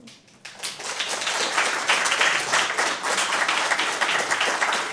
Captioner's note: applause